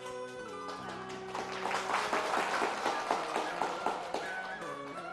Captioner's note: applause